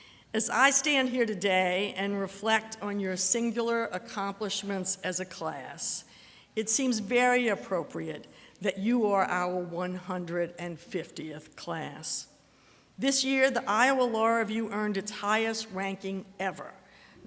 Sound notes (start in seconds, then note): none